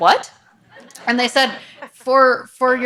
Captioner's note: audience laughs